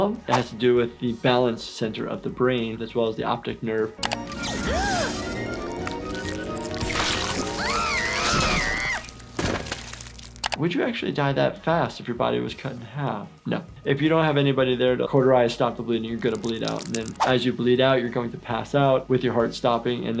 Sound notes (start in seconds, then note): 4.0 suspenseful music; 7.4 Sniffles shrieking